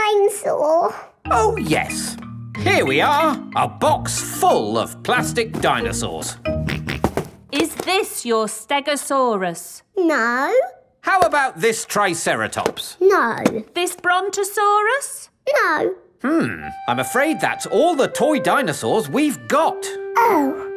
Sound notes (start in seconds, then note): 7.0 snorts